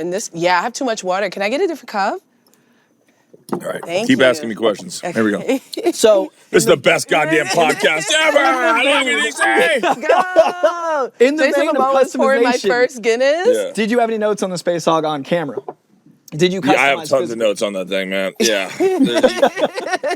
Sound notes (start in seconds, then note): 7.1 laughing; 18.4 laughing